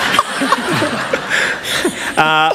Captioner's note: laughter